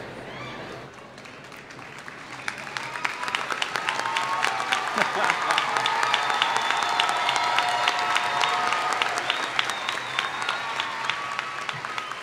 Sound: applause

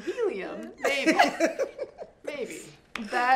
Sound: friends laughs

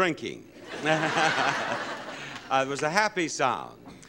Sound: laughter

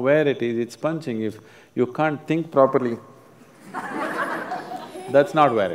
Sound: laughter

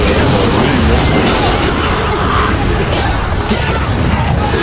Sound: fatal scream

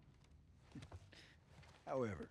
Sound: laugh

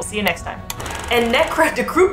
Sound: film rolling sound effect

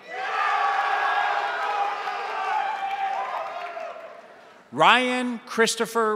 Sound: crowd applauding; crowd cheering

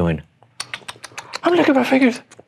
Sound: lips smacking

